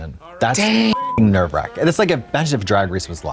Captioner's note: beep